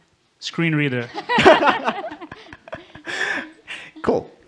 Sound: they laugh

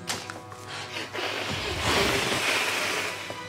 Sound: hissing; panting

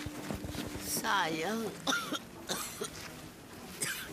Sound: coughing

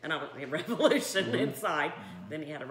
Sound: laughing

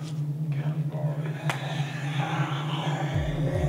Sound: growling

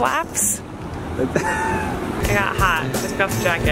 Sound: laughing

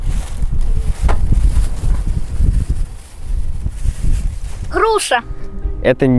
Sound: wind blowing

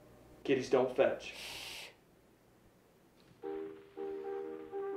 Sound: hissing; old time music

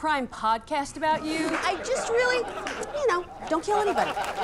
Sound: laughter

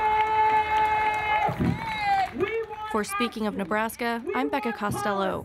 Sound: cheers and applause

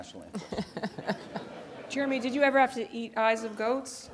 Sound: laugh

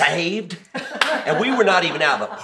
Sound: laughs

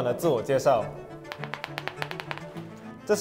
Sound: tap tap tap tap tap

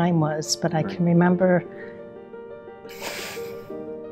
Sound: sighing

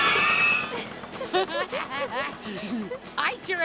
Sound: laughing

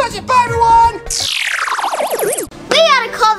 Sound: game over sound effect

